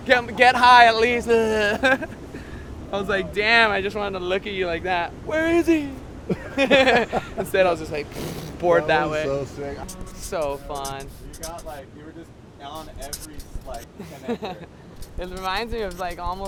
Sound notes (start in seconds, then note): 6.2 laughs; 8.4 flat tire sound